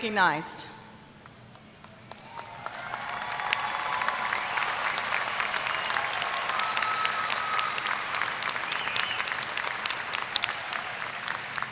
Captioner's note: applause